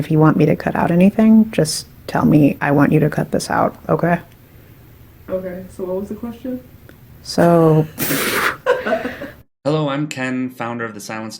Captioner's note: laughs